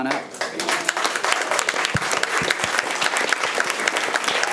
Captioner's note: audience applauding